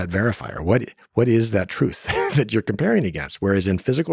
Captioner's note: laughs